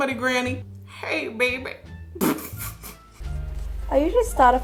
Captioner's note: laughs